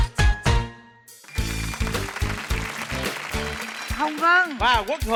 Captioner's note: applause